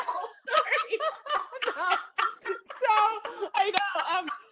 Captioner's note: laughing